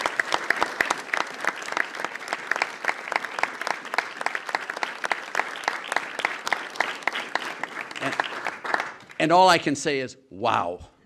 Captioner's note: applause